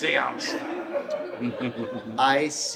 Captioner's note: audience laughs